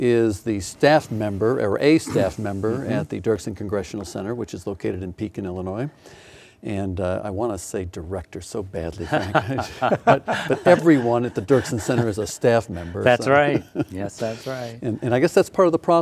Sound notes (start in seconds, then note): 9.0 laughing